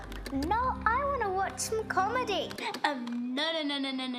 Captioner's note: remote clicks; remote clicks